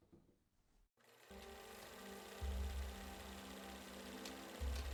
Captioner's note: film reel clicking